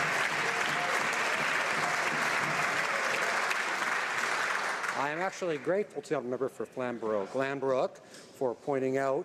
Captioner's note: some Applause